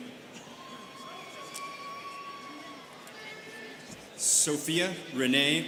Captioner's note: students cheering